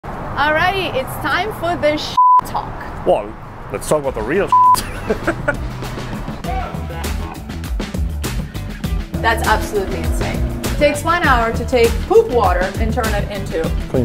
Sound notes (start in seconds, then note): 2.1 beep; 4.5 beep; 4.7 chuckling; 6.0 upbeat music